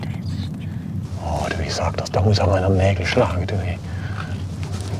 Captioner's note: quietly